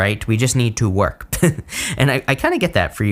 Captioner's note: chuckles